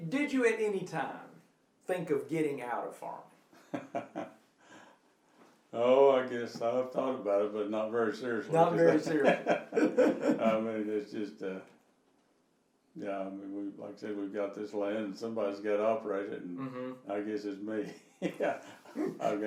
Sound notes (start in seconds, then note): 3.6 laughing; 8.5 laughing; 18.2 laughing